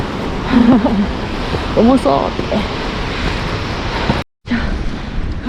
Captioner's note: laughs